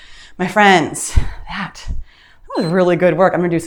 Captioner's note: timer beeps